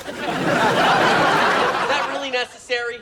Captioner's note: audience laughing